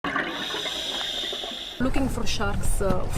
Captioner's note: air bubbles